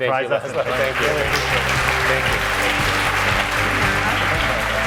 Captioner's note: applause